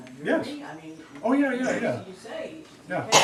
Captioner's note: student coughs